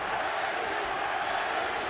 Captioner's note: audience chanting "manny!"